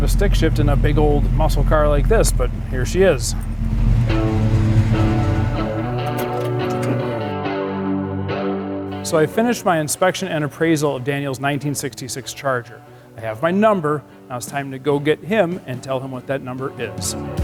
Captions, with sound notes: a stick shift in a big old muscle car like this, but here she is. (upbeat music) (engine revving) So I finished my inspection and appraisal of Daniel's 1966 Charger. I have my number. Now it's time to go get him and tell him what that number is.